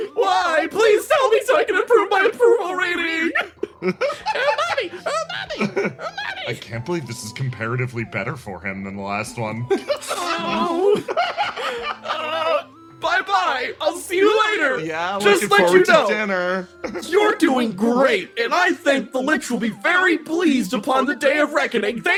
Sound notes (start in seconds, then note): 9.7 laugh